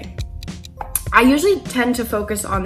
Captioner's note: ticking clock